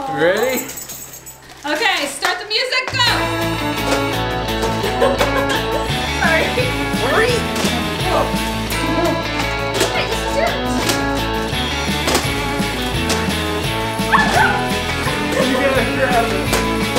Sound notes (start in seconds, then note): 3.1 upbeat music; 5.4 present thudding